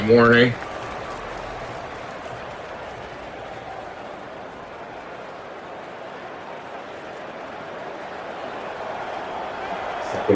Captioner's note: crowd Noises